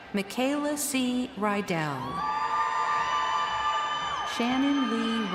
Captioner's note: crowd cheering